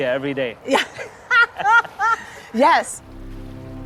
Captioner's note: laughs